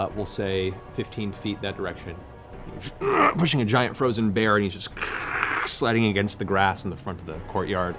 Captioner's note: grunts